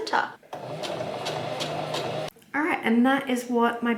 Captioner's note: sewing machine surges again